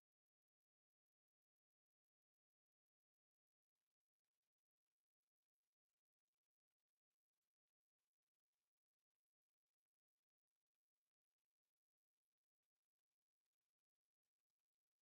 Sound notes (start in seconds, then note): none